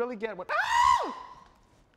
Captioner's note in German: schreit